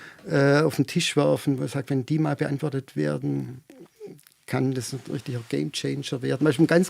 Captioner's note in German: räuspern